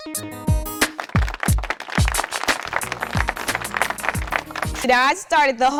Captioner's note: audience applauding